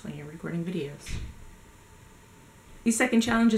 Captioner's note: door slams